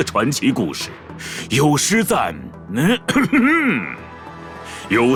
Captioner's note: cough